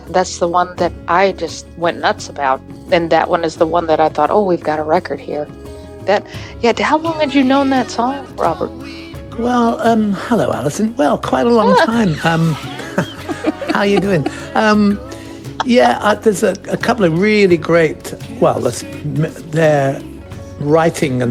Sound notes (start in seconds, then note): 11.6 laughs; 14.4 laughs more